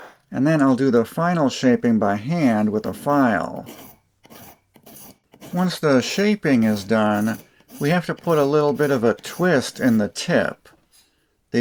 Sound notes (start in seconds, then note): 0.0 cutting sounds; 4.1 filing sounds